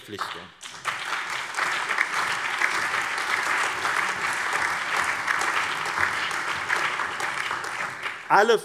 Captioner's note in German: Allgemeiner Beifall